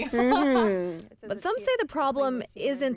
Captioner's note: laughter